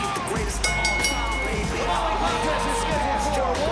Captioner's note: bell ringing